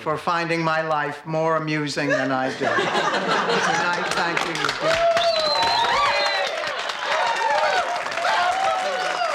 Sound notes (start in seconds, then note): 3.9 laughing and applause; 4.8 whistling and cheering